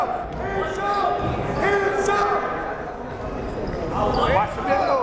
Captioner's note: yelling